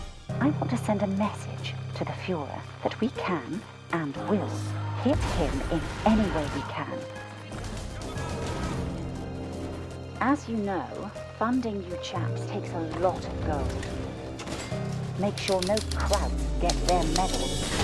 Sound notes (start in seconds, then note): 7.6 gameplay gunfire; 13.7 heavy box drop, cha-ching sfx